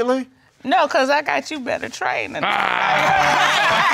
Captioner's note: laughs